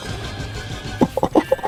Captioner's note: laughs to myself